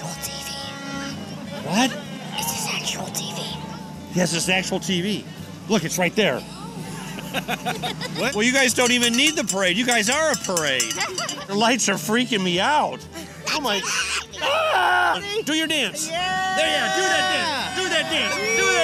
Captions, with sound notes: What's your secret to stay warm? - Layers. Layers and hot chocolate, special chocolate. - Anything special in your hot chocolate? - Maybe. (both laughing) - Is this actual TV? - What? - It this actual TV? - Yes, it's actual TV. Look, it's right there.